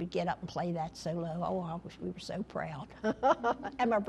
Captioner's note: laughter